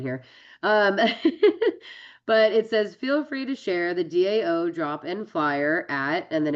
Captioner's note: laughs